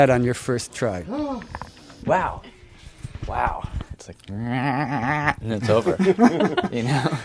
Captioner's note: laughs